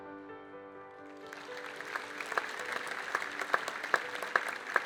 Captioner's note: gentle music; audience applauding